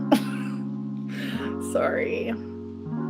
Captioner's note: giggles